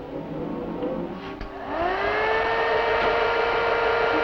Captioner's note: whirring